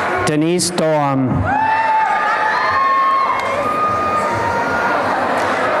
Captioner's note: applause and cheering